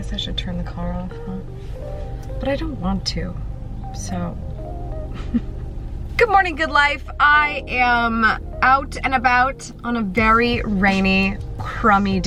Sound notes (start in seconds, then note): 0.0 chill music playing; 5.1 laughs